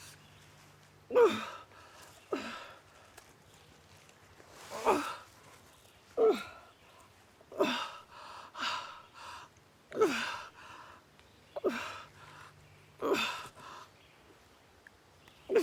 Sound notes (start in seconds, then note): 2.9 bag rustling; 6.2 Arawn groaning